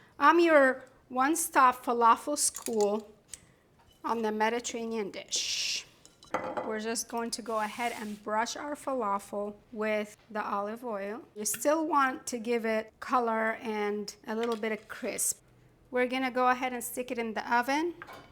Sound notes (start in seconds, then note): none